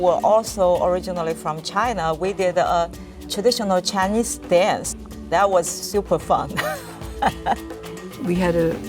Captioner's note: laughs